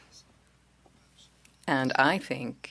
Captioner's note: speaking French